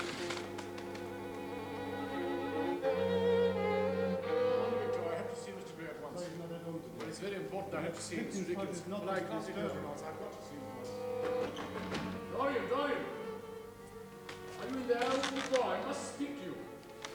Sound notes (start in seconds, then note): 10.8 knocking at door